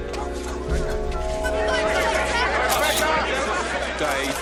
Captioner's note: all shouting